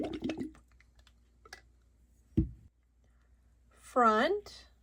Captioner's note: water gurgling